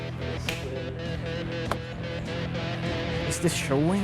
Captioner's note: clapping